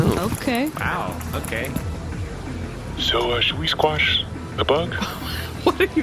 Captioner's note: whispering